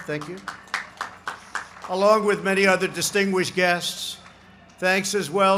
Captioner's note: applause